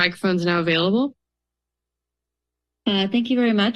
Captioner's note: silence